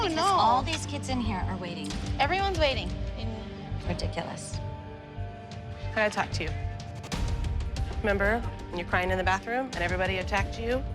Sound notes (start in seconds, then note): none